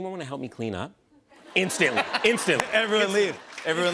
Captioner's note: laughter